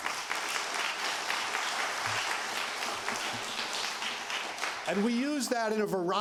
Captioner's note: applause